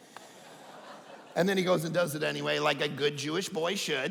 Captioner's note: audience laughing